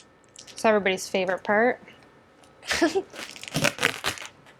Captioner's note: laughs